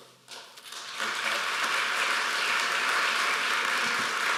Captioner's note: applause